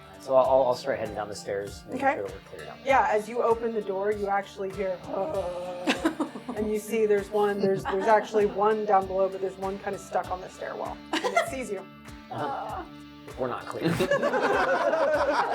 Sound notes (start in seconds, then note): 5.1 zombie moans